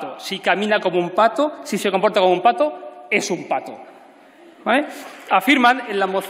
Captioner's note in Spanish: Aplausos